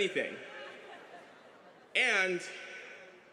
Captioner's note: laughter